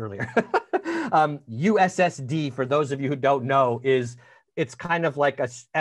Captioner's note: laughing